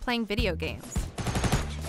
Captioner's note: gunfire sounds